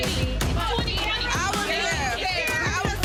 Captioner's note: people chattering